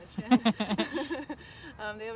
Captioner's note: laughter